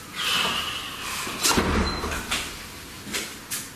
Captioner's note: loud exhale